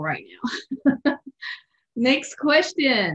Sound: laughs

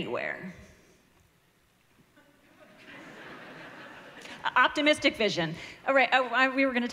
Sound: laughter

